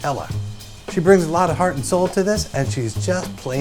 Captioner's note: none